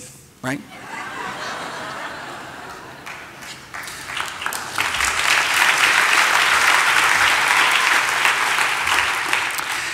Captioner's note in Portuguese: Risos, aplausos